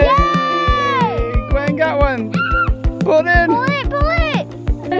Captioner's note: squeals